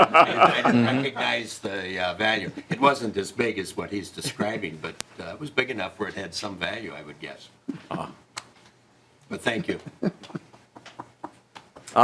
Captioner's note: laughing